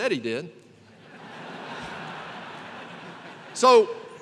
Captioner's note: laughter